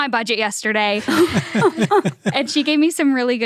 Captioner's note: laughs